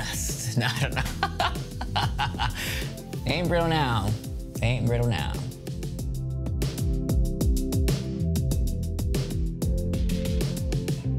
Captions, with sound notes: (laughing) Ain't brittle now, ain't brittle now.